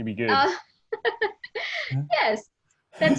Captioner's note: laughing